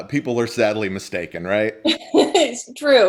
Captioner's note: laughs